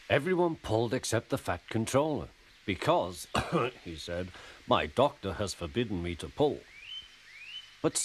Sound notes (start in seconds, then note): 3.3 clears his throat